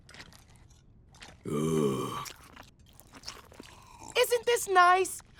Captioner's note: groans